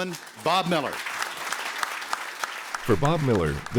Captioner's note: applause